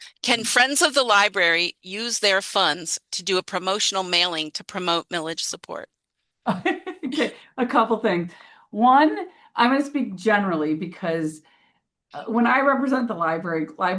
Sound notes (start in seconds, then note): 6.4 laughter